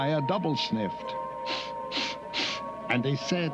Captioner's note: both sniffing